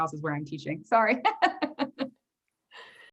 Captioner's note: laughs